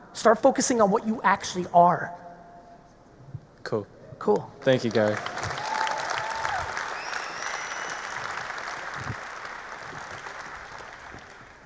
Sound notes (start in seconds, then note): 4.6 audience applauding; 4.9 audience cheering